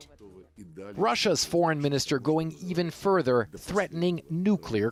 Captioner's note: voice-over